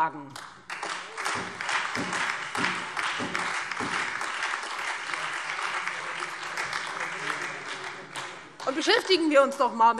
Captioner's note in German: Beifall Freie Demokraten, SPD, DIE LINKE und vereinzelt AfD